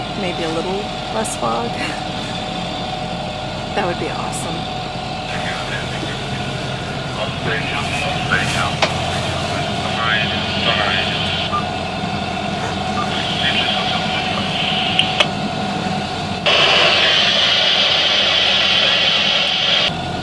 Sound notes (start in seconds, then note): 5.3 chatter on the VHF; 16.3 loud static